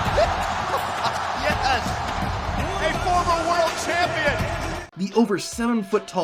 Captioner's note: laughing